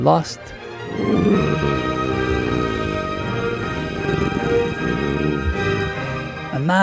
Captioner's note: grrrrrrhhhhhh